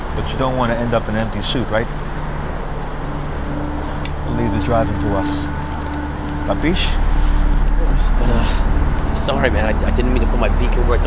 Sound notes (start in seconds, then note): 6.8 speaks foreign language